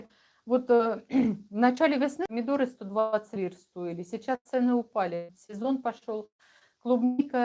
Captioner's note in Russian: откашливается